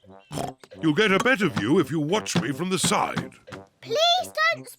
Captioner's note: oinks